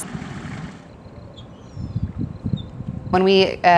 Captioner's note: desert water sounds